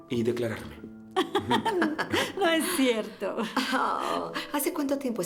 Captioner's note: laughing